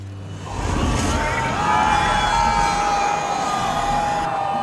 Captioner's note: riders exclaiming